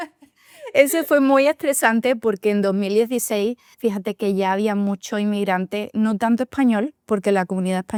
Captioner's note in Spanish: risas